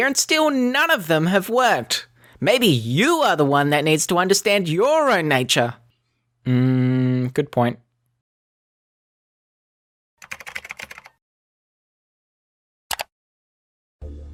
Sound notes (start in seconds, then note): 10.2 keyboard keys clicking